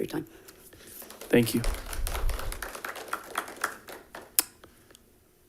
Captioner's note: audience applauding